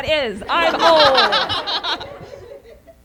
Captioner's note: laughter